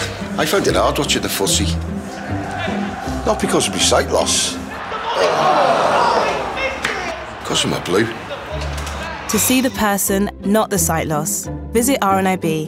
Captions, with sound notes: I find it hard watching the footy. - (crowd chants) - Not because of my sight loss... (all groan) ... cos I'm a blue. To see the person, not the sight loss, visit RNIB.